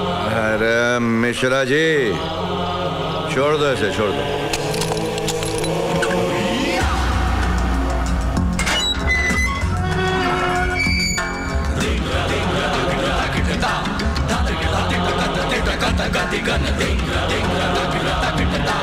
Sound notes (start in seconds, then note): 8.6 Door creaks